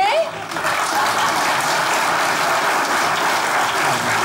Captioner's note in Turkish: Alkış sesleri